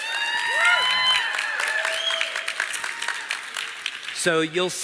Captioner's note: เสียงปรบมือ